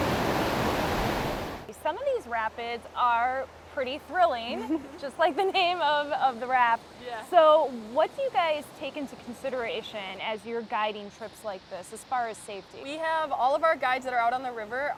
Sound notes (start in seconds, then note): 0.3 water rushing; 4.8 laughs